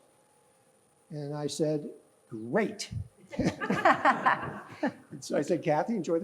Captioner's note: laughing